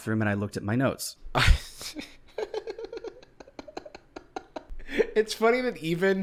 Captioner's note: snickers